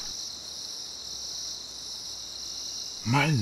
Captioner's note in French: ambiance de jungle